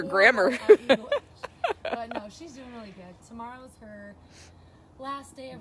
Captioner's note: laughter